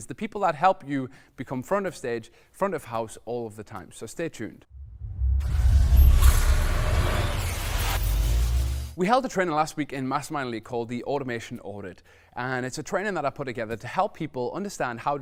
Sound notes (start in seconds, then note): 4.8 buzzing